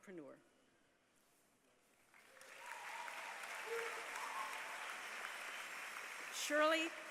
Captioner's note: applause